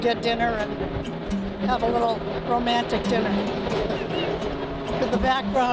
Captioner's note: laughs